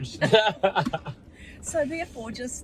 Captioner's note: laughing